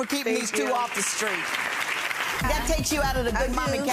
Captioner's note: audience applauding